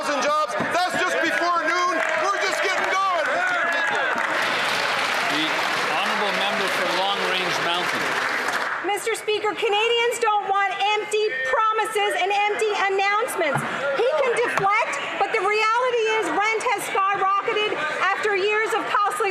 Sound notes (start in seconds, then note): 8.6 applause